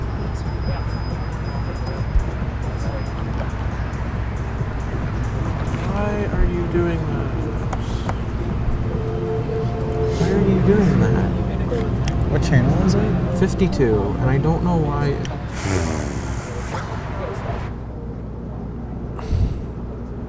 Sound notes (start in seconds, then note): 0.1 traffic; 15.5 sigh; 19.2 sigh